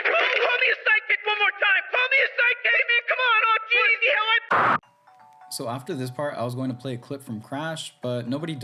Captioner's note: shouting